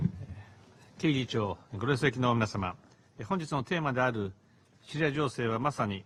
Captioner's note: Prime Minister Abe speaks foreign language